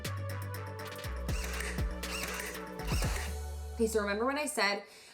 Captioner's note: drill whirring